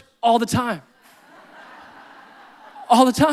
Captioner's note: audience laughing